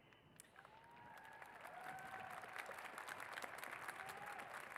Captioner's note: cheers and applause